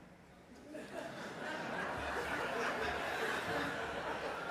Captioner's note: audience laughing